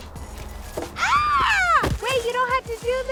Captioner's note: jogger screaming